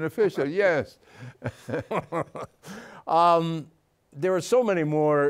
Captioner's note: laughing